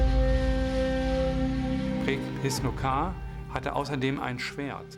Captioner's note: speaking german